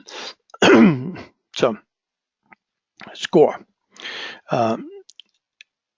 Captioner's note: cough